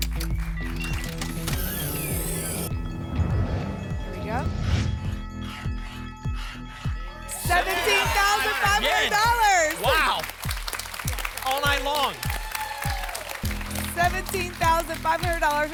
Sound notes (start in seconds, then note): 0.0 applause; 2.6 whoosh; 2.7 alarms; 5.1 alarms; 5.1 scratching sounds; 12.5 applause and cheering